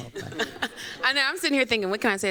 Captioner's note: chuckles